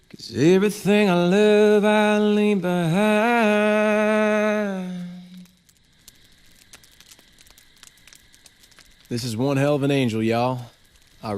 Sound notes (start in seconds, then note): 5.7 fire crackling; 5.7 insects chirping